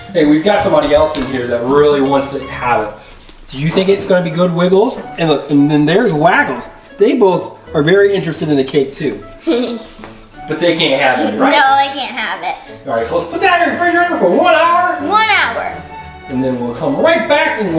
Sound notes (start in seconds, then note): 9.4 assistant giggling